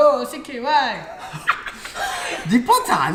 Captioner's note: cracks up